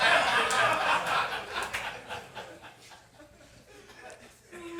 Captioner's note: audience laughing